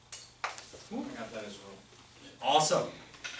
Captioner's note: voiceover